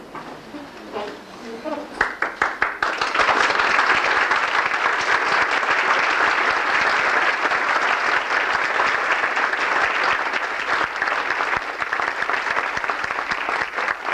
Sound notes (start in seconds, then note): 2.0 welcome applause for shri mataji